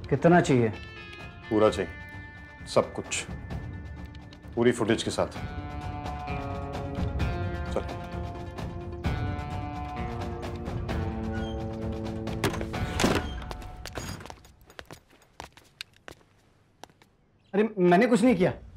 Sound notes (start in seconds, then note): 12.2 Door opens; 13.4 Footsteps; 13.8 Door sound